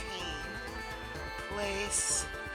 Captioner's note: sounds of a little glade